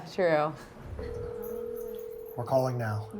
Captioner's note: phone ringing